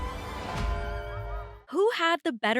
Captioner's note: theatrical music; bell rings